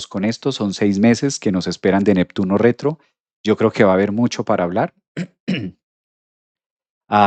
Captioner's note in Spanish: carraspeo